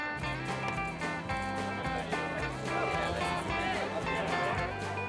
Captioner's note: chatter